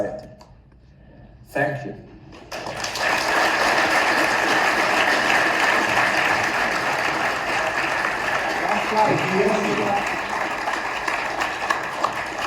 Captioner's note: audience applauds